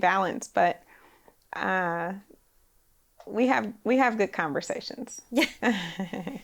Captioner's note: laughs